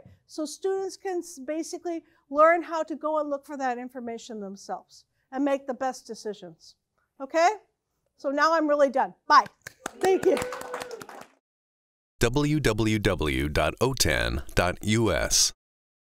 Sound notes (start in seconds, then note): 9.4 claps; 9.8 audience cheering